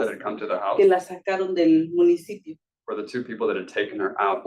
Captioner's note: speaking Spanish